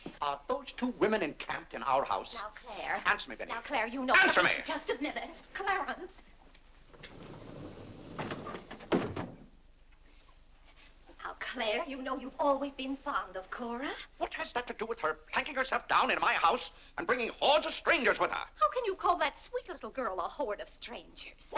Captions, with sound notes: - Are those two women encamped in our house? - Now Clare-- - Answer me Vinnie. - Now Clare, you know-- - ANSWER ME! - Just a minute. Clarence... (doors sliding shut) Now Clare, you know you've always been fond of Cora. - What has that to do with her planking herself down into my house, and bringing hordes of strangers with her? - How can you call that sweet little girl a horde of strangers?